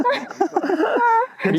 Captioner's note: crying